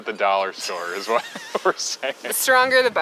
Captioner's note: both laugh